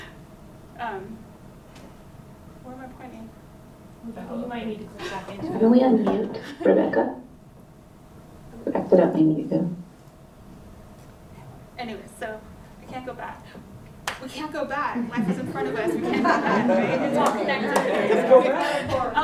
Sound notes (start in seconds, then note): 15.1 laughter; 17.7 chatter